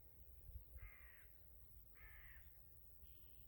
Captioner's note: distant crow